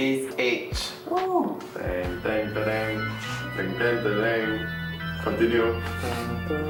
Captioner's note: mimics wedding march music; continues mimicking wedding march music